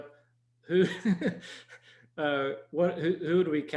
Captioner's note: laughing